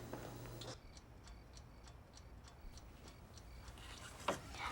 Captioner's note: clock ticking